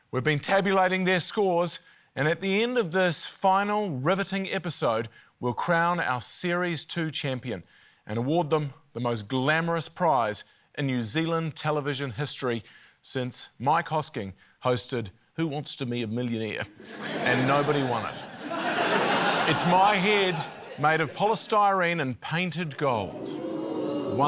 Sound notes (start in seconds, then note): 16.7 laughter